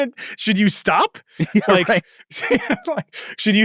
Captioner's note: laughs